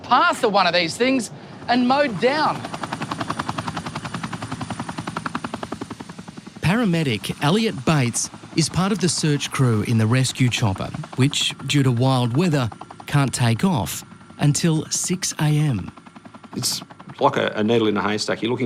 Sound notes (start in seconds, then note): 2.8 helicopter blades chuffing